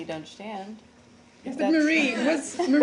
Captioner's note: laughter